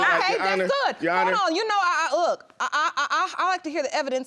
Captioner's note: stammers